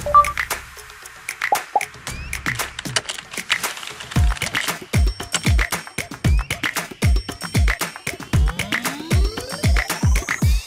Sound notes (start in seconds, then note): 1.5 upbeat hip hop music; 3.0 keyboard typing